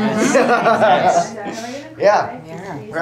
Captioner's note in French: rires